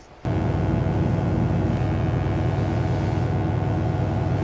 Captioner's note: electric buzzing